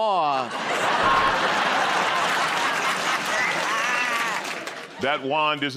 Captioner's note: laughter